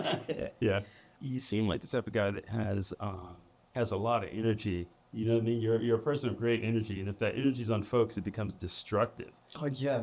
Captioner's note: laughter